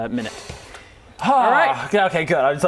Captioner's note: sigh